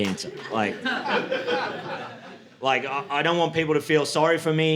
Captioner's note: audience laughing